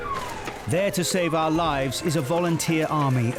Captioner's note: alarm blaring